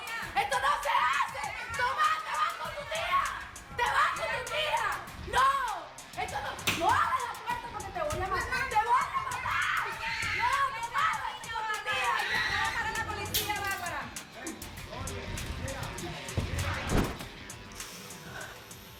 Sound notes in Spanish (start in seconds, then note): 0.5 La otra mujer sigue gritando; 12.7 Sigue la gritería